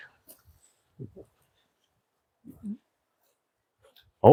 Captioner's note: passing gas